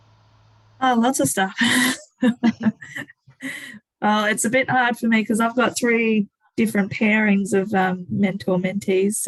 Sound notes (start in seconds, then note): 1.5 laughing